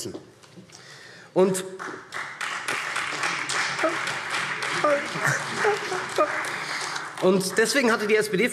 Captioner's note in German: Beifall SPD und Freie Demokraten